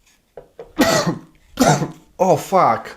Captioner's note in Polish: kaszlenie